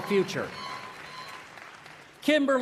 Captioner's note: applause